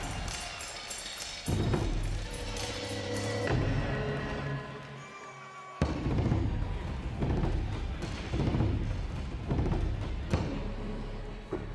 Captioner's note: cheers and applause; drumming